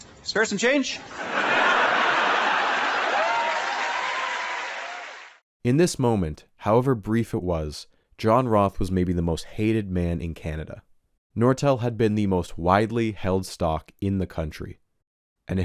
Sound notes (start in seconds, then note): 1.1 audience laughs and applauds